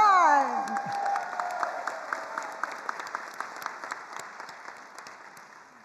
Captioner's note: attendees cheering and applauding